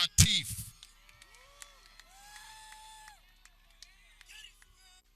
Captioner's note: people cheering